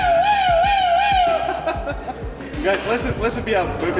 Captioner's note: person laughing